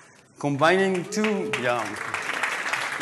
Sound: applause

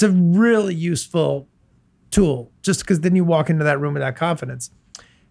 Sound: none

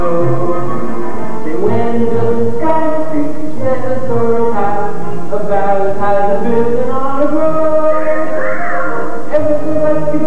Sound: whistles

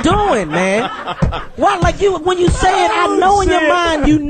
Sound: all laugh

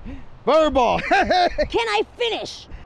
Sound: laughter

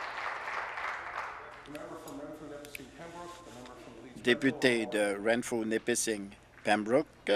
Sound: applause

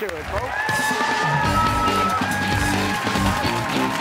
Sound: cheers and applause

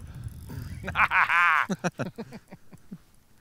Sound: laughing

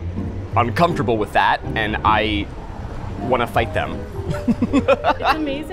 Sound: laughs

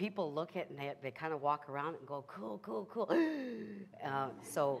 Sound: gasps

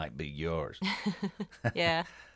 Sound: laughs

